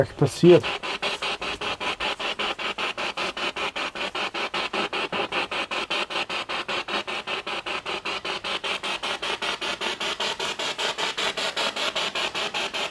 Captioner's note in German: Noise of the spiritbox in the background